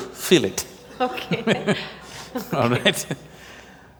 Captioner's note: laughs